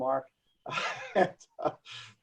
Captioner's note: laughs